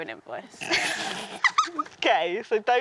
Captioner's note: both laugh